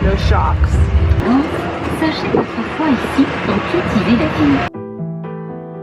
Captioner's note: french announcer speaking; soft acoustic music